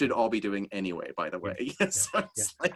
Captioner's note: laughs